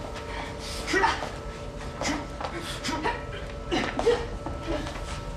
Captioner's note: fighters grunting